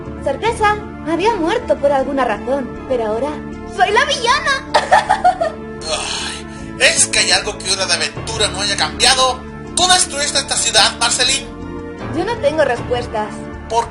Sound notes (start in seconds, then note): 4.7 laughs; 5.8 groaning